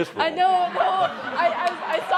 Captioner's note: laughter